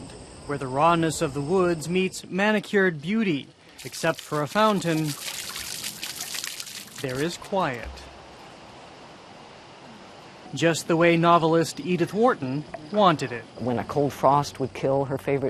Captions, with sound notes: where the rawness of the woods meets manicured beauty. Except for a fountain... (water splashing) there is quiet. Just the way novelist Edith Wharton wanted it. >> When a cold frost would kill her favorite trees,